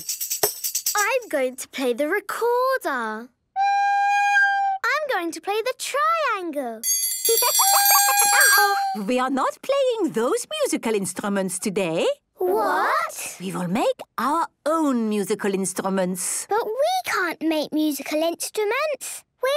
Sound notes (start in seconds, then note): 3.4 plays recorder note; 6.8 dinging